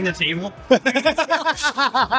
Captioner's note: laughter